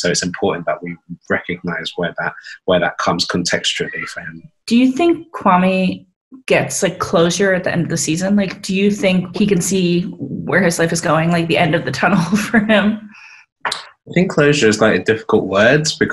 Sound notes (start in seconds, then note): 14.1 laughs